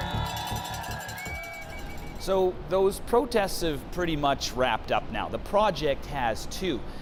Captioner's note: cheers and Applause